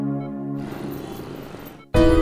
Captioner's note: Traffic sound